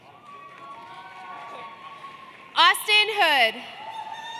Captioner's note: applause